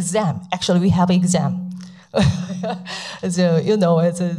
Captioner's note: laughs